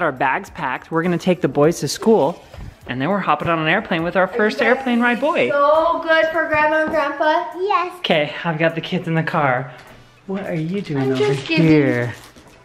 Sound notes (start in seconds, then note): none